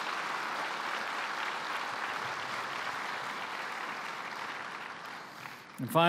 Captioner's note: applause